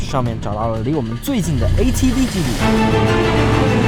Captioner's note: off-road vehicle